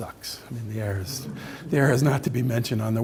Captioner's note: audience laughing